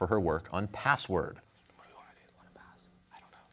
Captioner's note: whispering